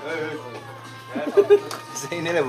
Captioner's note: OR KIA chuckles